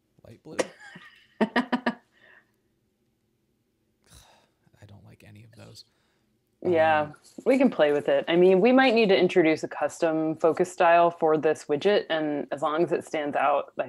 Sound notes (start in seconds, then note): 0.6 laughs; 4.1 sighs